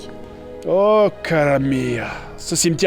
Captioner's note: Italian language